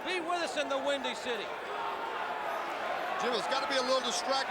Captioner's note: crowd cheering